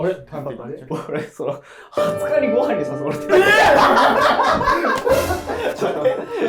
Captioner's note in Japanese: ：笑い